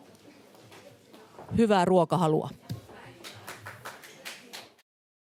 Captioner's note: applause